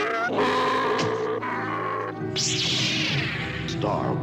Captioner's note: grunting; lightsaber igniting